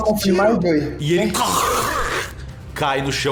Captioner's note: aurghh